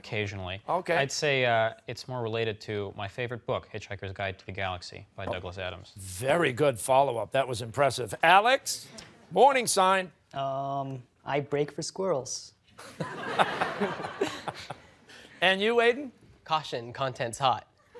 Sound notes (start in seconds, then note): 12.8 laughter